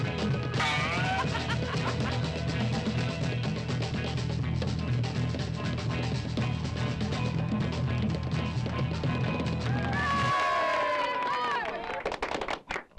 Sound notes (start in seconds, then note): 0.2 spring boings; 0.6 Jane laughs; 8.8 group cheers